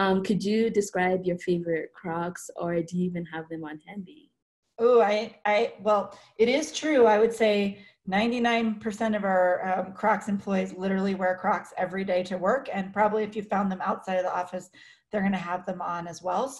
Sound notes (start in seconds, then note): none